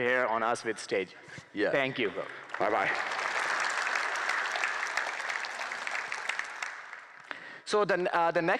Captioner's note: applause